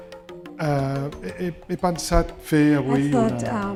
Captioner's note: speaking spanish